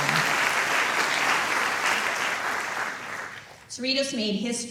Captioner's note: applause